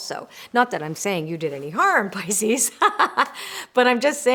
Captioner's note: laughs